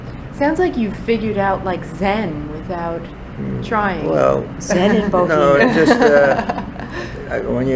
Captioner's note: laughs